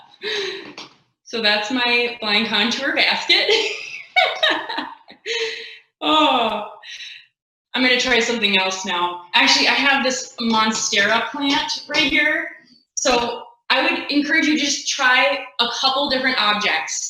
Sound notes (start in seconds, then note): 3.4 laughing